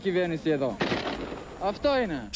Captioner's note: AK-47 noises